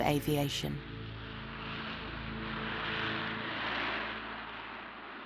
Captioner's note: aeroplane whooshing